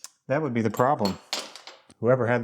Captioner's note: metal clinks